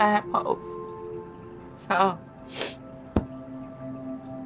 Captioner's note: sniffles